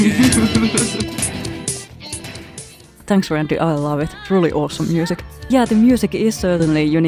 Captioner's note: chuckles